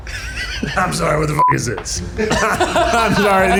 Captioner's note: beep; all laugh